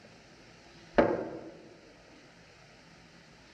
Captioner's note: hand Hits Table